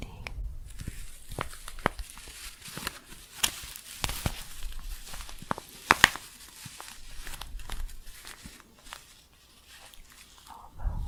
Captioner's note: crinkling and scratchy shuffling